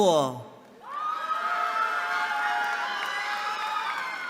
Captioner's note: cheering